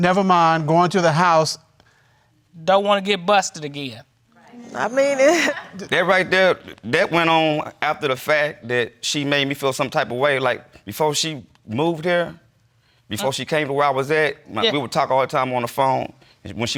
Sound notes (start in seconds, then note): 5.2 chuckles